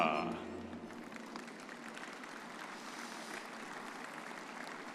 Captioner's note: audience applauding